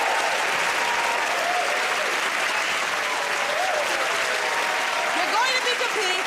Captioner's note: cheers and applause